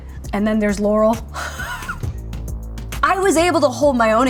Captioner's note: laughs